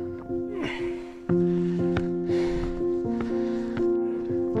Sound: breathing heavily

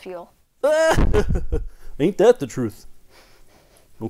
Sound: Boink laughing

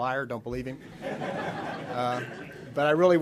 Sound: audience laughs

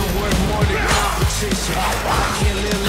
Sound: both bellow

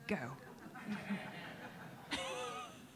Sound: laughs; audience laughing

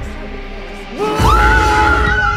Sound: screams

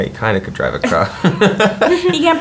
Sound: laughing

